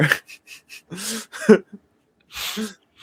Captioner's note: laughs